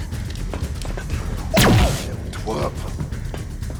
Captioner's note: gunshots